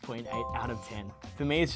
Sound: chime

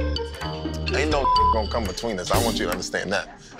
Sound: beep sound

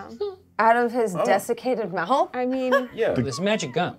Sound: laughs

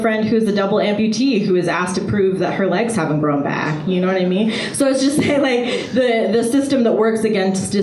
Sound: laughs

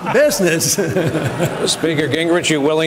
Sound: laughter

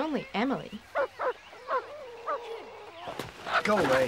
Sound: dog barking

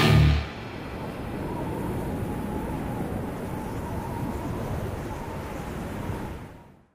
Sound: wind blowing

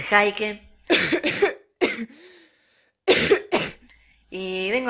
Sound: cough

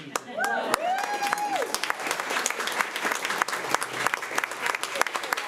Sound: crowd cheering and clapping

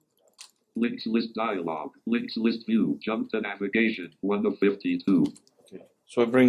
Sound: computerised voice

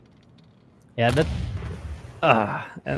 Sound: volley of booming sounds

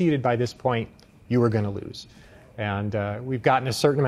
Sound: none

